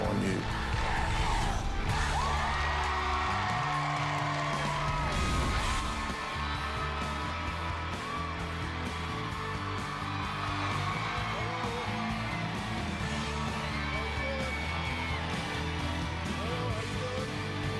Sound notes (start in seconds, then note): 2.2 crowd chanting "dr. phil!"; 4.8 cheers and applause